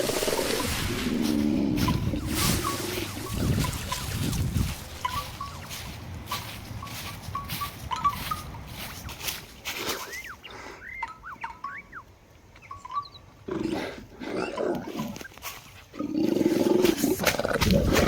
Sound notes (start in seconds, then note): 1.1 growling; 10.1 growl; 16.0 snarl